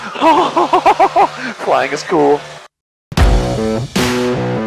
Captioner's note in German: Lacht; Intro Musik